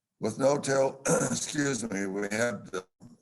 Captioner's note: coughs